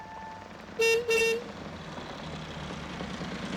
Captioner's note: horn honks